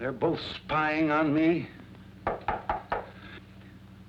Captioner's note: knocking